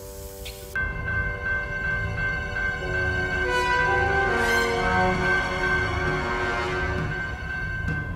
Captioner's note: alarm bell sounding